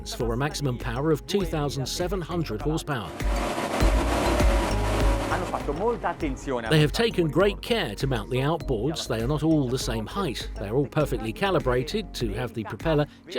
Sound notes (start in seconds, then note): 3.1 engines revving; 4.0 speaking in foreign language